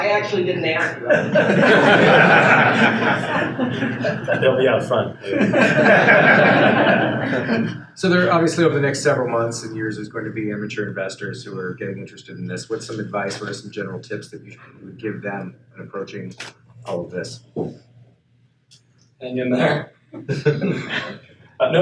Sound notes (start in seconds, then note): 3.0 audience laughs; 6.8 audience laughs; 20.2 laughs